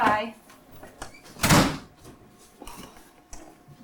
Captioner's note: door Slam